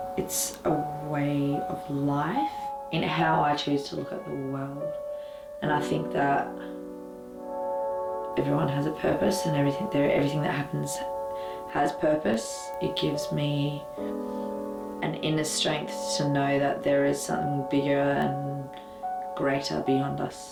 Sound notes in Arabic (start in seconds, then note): none